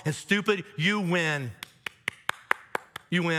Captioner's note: claps hands